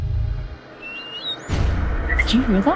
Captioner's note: whistling